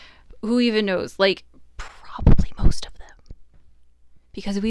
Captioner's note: whispers